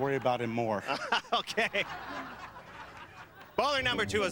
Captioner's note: laughs